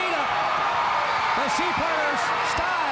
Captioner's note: crowd cheering